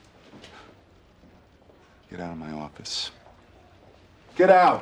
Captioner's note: scoffs